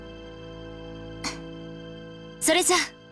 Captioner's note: breath